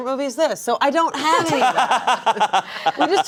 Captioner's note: laughing